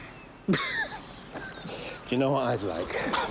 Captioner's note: both laughing